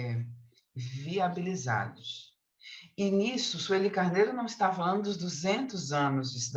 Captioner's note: continues speaking in Portuguese